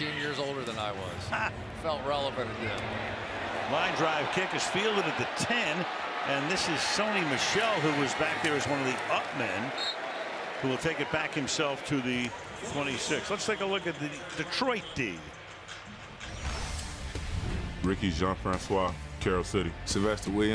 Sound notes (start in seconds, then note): 2.0 laughs; 9.8 whistle